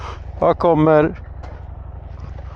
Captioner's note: speaking in foreign language